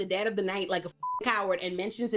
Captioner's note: beep